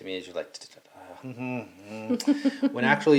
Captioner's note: humming; laughing